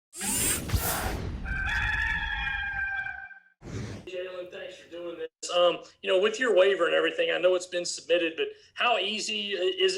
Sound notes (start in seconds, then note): 0.2 intense beats; 1.4 cock crowing